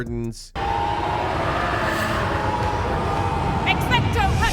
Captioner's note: wind howling